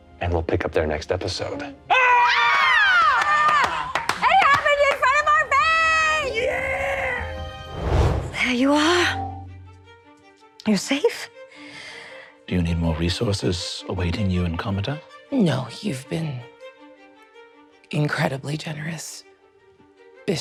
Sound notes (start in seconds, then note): 1.9 all screaming; 2.9 clapping